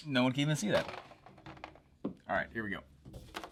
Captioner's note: marker rattling